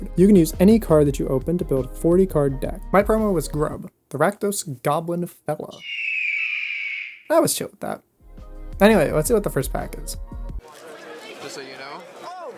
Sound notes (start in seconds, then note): 4.1 music stops; 5.7 eagle screech